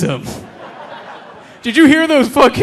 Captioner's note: audience laughing